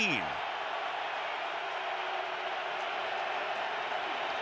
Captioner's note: crowd cheering